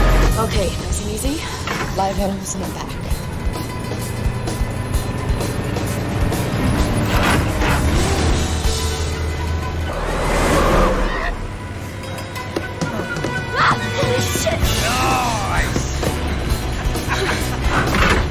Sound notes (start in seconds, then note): 13.5 screams